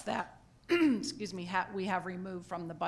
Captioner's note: clears throat